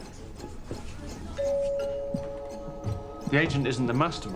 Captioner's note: doorbell rings